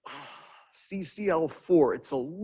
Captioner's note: sighs